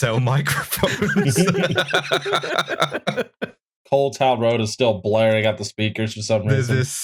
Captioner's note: laughter